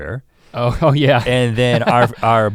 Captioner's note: laughs